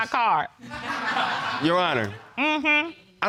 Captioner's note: audience laughs